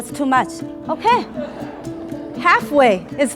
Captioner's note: laughter